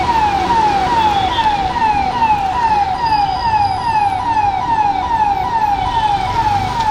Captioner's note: fire truck, alarm